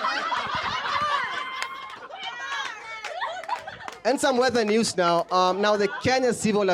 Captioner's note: laughter